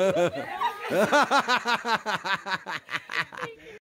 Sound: hysterical laughter

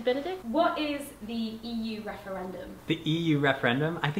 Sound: voiceover

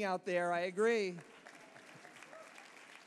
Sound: applause

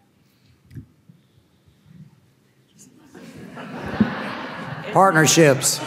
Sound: audience laughing; panelists murmuring

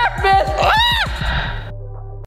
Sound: squeals

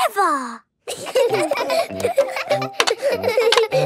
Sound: laughter

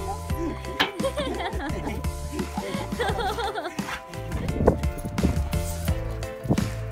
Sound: upbeat music; onlooker laughing

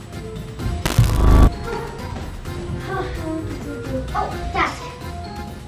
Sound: electric zapping

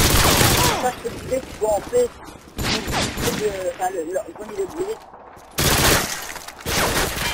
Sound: gunfire

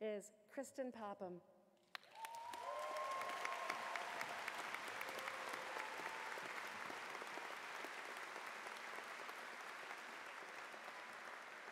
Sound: cheers and Applause

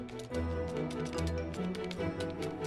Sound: keyboard clicking; suspenseful music

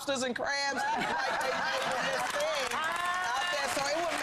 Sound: laughter

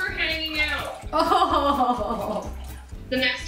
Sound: chuckles

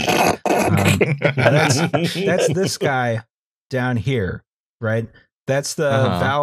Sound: laughter; laughter

